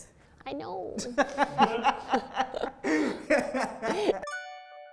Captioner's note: both laughing